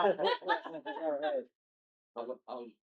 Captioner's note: laughing